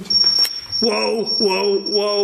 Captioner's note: alarm beeping